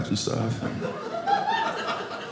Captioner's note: audience laughing